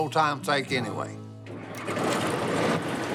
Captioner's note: engine starts